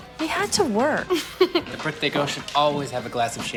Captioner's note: mischievous laughter